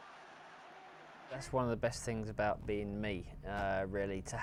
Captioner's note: cheering